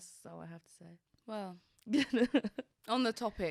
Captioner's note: laughing